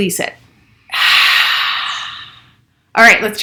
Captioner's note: exhales